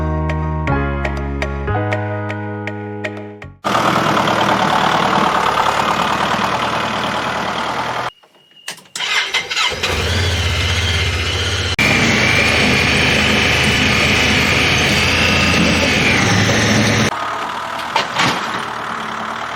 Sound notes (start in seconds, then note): 0.0 upbeat music plays; 3.9 tractor rumbles; 7.9 side by side chugs then turns on; 12.5 chugging of side by side; 17.4 tractor sputters